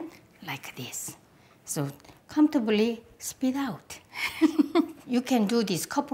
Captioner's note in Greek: γέλιο